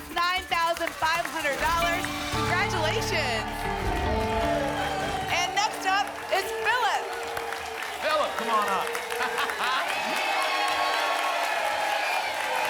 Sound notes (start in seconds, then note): 3.5 applause and cheering; 9.1 laughs; 10.2 applause and cheering cont